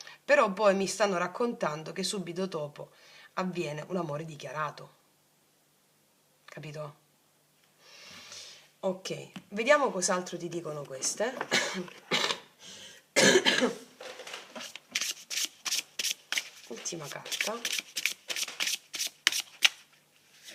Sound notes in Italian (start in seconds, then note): 13.1 tosse; 13.2 schiarire la voce